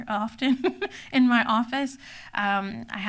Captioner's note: laughs